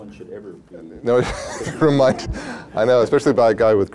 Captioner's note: laughs